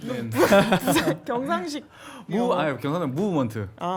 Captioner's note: gyeongsang-do style English